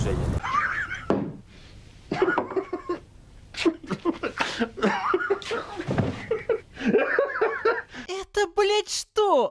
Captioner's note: hysterical laughter